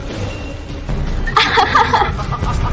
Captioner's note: very beautiful laugh